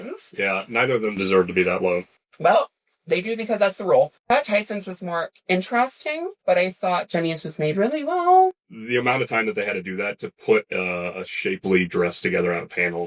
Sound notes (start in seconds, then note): none